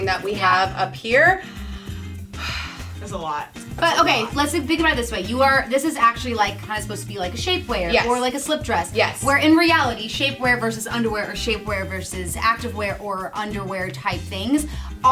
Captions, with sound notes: that we have up here. (sighs) - It's a lot. - But, okay, let's think about it this way. This is actually like, kind of supposed to be like a shape wear, or like a slip dress. - Yes. - Where in reality, shape wear versus underwear or shape wear versus active wear or underwear type things